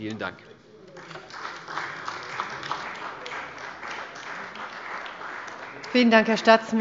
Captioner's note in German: Beifall bei der CDU